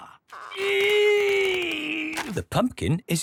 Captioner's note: straining